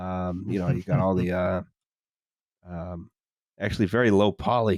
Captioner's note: chuckles softly